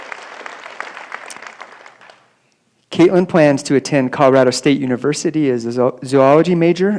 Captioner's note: applause